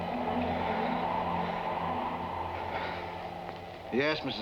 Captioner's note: panting